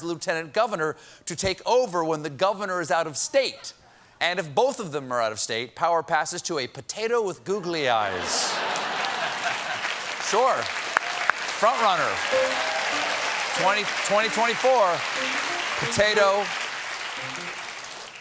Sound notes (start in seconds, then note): 10.4 applause; 10.4 laughter